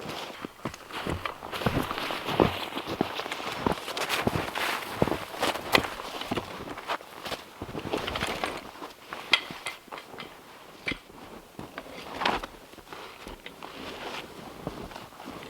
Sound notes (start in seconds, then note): 0.0 footsteps crunching